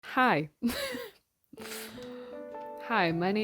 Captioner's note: laughs